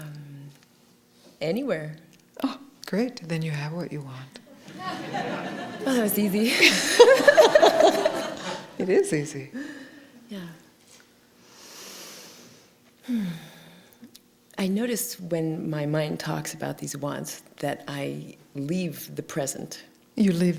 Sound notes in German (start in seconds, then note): 4.6 Gelächter; 13.0 hmm...seufzt